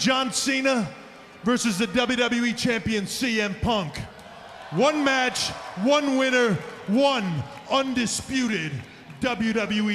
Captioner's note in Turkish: Alkış